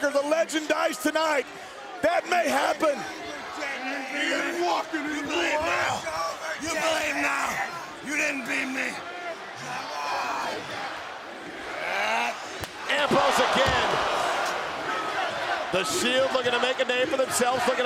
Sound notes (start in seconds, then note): 14.3 crowd shouting